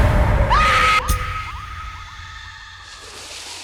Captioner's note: Alicia screaming